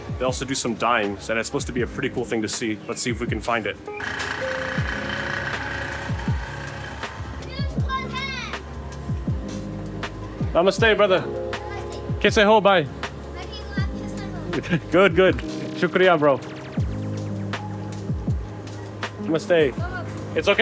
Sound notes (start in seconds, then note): 3.9 motor whirring; 10.0 speaking in foreign language; 16.2 speaking in foreign language